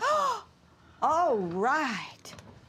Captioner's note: Dory gasps